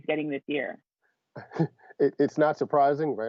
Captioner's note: laughter